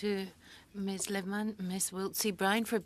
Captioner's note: speaking French